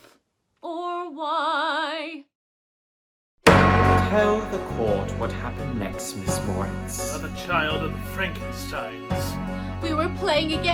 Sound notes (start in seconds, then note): 3.4 gavel bang!